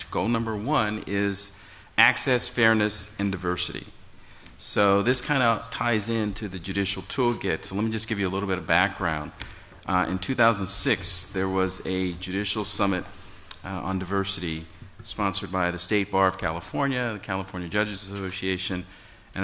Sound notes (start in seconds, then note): none